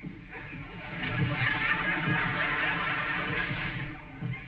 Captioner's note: audience chuckling